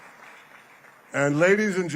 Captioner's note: applause